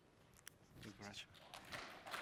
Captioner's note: applause